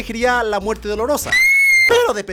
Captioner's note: scream